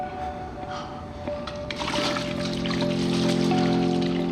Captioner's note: splashing